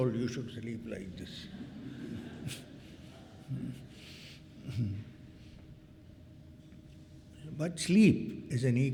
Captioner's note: clears throat